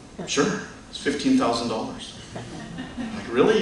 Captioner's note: laughter